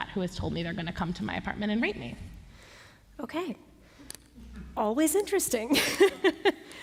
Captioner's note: laughter